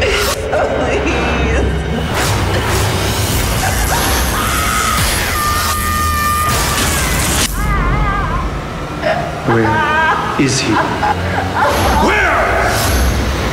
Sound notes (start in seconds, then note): 3.2 electrical buzzing; 3.8 woman screaming; 9.5 woman sobbing; 13.2 menacing music